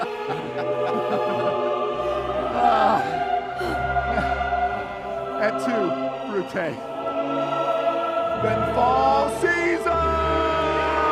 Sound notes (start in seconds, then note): 0.0 laughs; 2.4 sighs